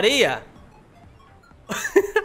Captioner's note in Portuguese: risos